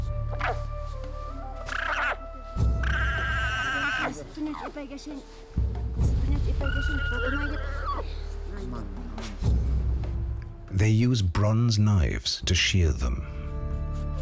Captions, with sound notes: [llama braying] [speaking Quechuan] They use bronze knifes to shear them.